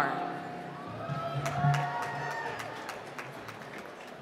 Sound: applause

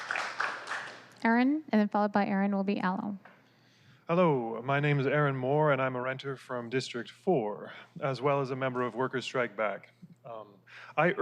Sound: applause

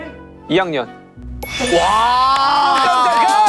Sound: ding dong

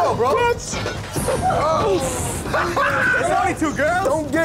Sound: crowd cheering

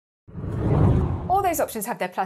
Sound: hard whooshing

